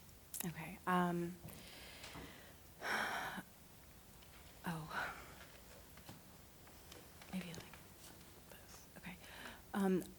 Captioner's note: exhales